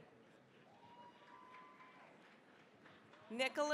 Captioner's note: cheering, applause